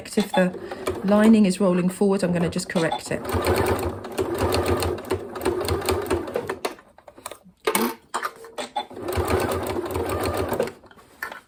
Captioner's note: sewing machine noise